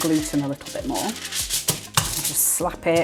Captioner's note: slaps